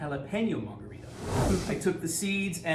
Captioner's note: loud whooshing